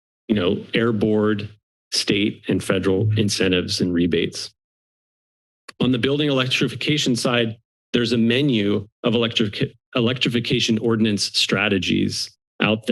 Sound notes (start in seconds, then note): 0.0 silence; 4.6 silence